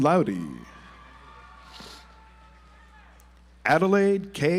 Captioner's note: audience applauds